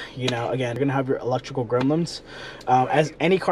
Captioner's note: speaks faintly